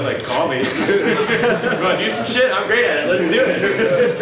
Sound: audience laughs

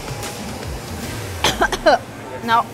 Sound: coughs loudly

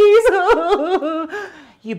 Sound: Gretel sobbing

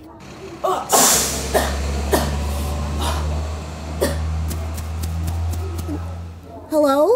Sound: car hisses; coughs

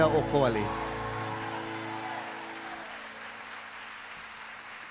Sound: speaking in Hawaiian; audience cheering

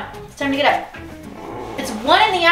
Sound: son groans

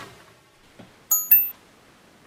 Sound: email ping

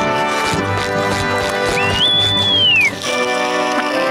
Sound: whistling

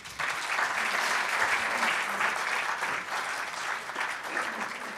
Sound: audience applauding

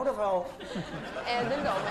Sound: laughing

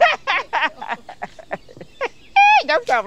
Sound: laughs

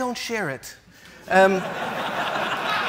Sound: laughs

